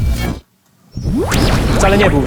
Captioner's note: transdimensional teleportation sound